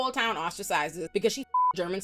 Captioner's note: beep